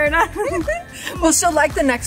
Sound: both chuckle

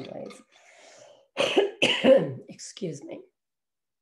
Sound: coughs

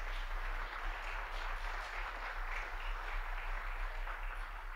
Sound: audience applauding

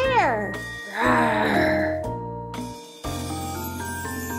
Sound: roaring

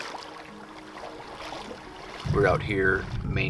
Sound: water splashing

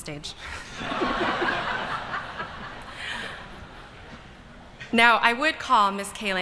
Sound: laughter

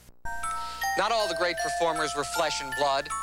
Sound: none

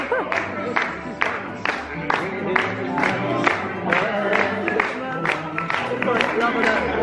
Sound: hand clapping

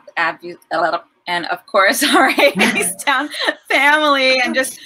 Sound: tongue trill

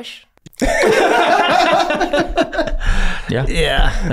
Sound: all laughing

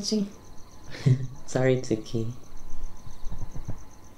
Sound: chuckles

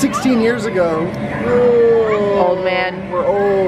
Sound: groans

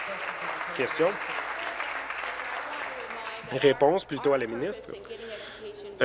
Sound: applause

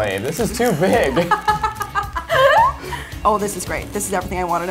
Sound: laughing

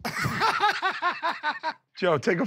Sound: laughter

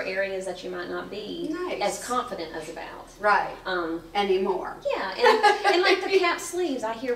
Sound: laughs

